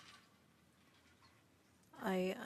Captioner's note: speaking French